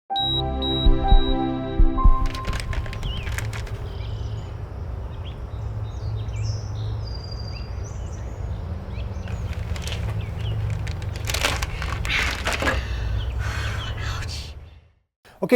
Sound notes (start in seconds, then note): 0.2 logo beeping; 2.2 bag crumples; 4.5 birds chirping; 12.7 exhales deeply